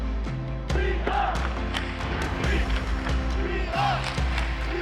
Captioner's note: peppy chanting